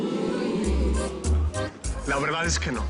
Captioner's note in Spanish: Abucheo del público